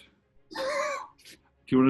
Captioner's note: sniggering